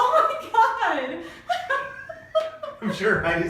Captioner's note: laughing